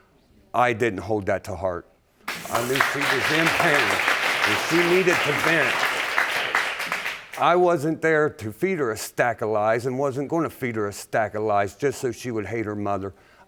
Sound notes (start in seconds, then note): 2.2 audience clapping